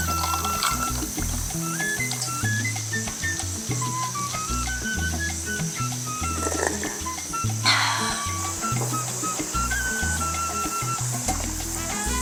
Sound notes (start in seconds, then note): 6.4 slurp